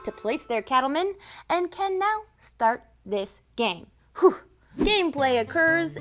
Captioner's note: blows breath